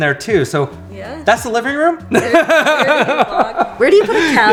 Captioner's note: laughing